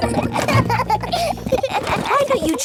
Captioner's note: children laughing